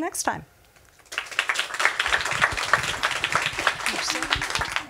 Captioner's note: audience applause